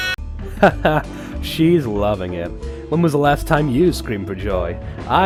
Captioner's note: chuckles